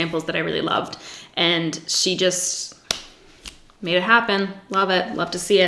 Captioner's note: snaps fingers